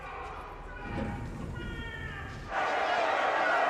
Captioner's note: distant shouting